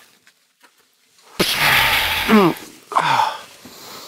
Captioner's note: pshaaa!